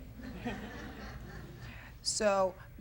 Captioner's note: audience laughs